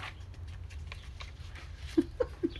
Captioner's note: laughs